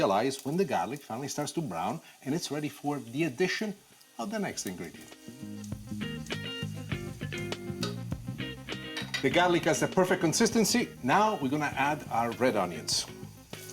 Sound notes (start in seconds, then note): 5.0 oil sizzling